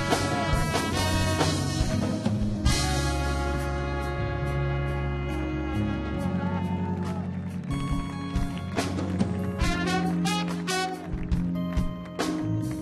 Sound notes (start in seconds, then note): 5.4 audience cheering; 5.7 audience clapping